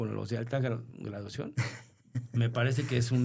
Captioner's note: laughter